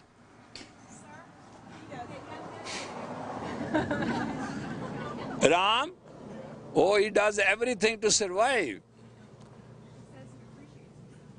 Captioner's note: Студенты смеются